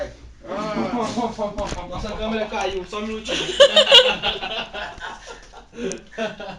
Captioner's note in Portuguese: Risadas